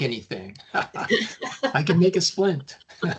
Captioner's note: chuckling